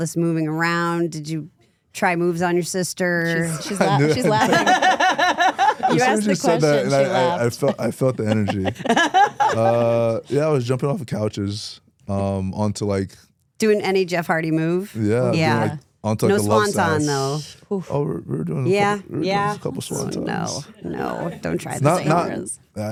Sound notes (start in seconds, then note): 5.1 both laugh